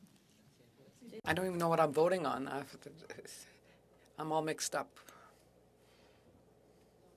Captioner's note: speaking French